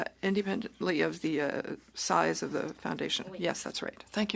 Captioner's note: speaking French